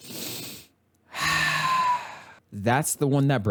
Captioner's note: sigh